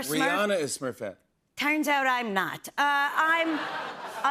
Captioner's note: laughter